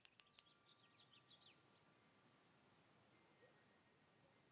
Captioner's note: torch clicking; birds chirping